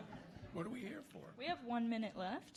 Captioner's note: audience laughing